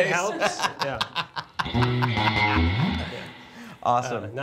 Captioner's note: laughing